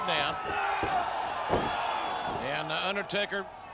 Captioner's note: troops cheer